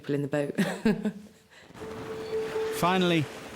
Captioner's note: laughing